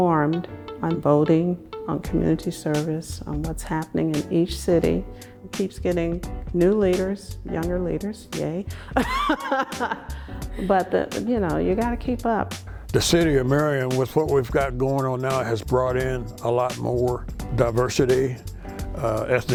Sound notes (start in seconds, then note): 8.9 laughs